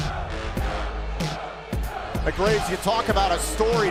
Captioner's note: fans chanting